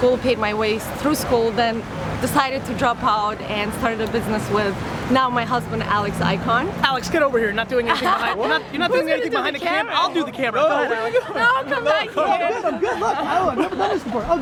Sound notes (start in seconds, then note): 10.1 laughs; 13.7 talks rapidly